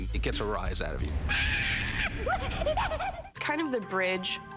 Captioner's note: screeches, whimpers